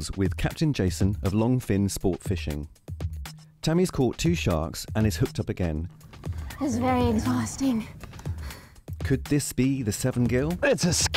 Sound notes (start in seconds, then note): 8.3 panting